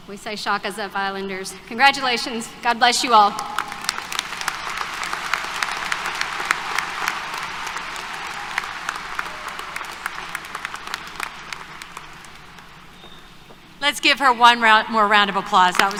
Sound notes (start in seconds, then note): 3.4 applause